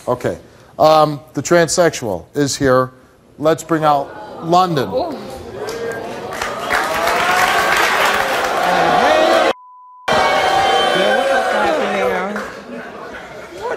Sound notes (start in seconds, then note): 5.5 audience jeers; 8.6 audience boos